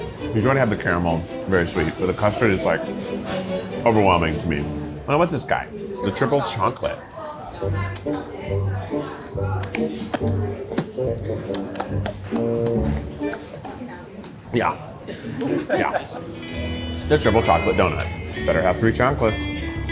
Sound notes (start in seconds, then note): 7.6 gentle whimsical music; 7.9 lips smacking